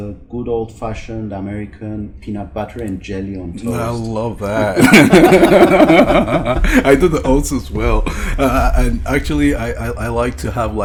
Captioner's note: both laugh